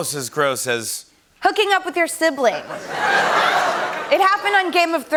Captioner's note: laughter and groans